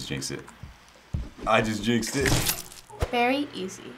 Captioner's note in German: Blut spritzt